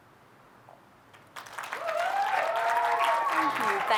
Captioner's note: audience applauding